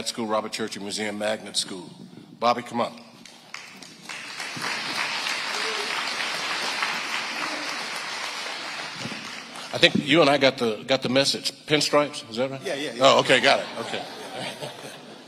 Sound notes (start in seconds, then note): 3.3 audience applauding; 13.2 audience laughing